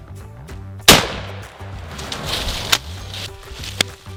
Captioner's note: gun fires